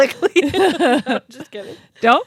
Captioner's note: both laughing